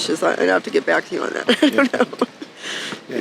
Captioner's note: laughing